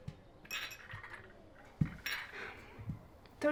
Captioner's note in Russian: перезвон бутылок от шагов